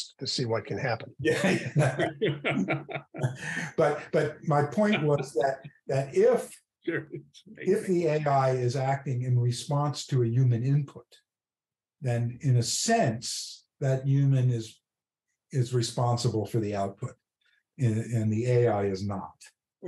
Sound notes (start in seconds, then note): 1.2 laughter